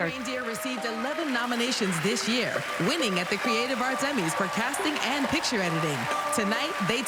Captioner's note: applause